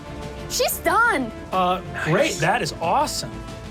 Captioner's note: none